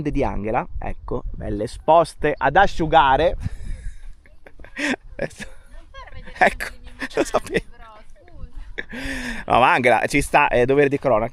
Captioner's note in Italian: risate